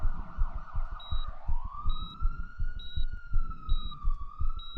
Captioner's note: heart monitor beeps